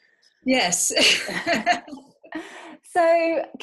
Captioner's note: laughs